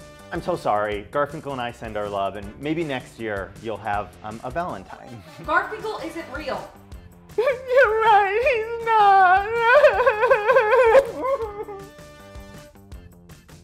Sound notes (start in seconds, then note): 7.4 crying; 9.5 sobs; 10.9 muffled sobs